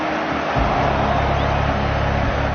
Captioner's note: crowd groaning